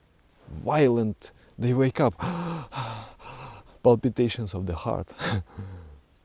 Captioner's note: heavy, frightened breathing